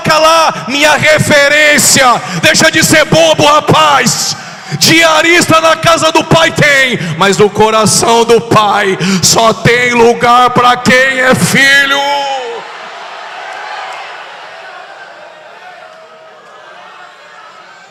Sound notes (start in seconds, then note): 13.4 applause